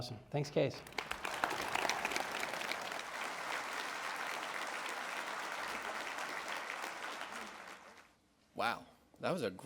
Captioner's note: audience applause